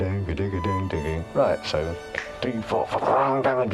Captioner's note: mouths music theme; mouths drums groove